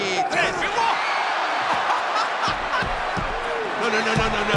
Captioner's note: laugh